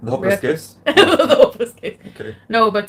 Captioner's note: laughing